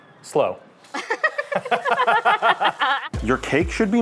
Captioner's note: laughing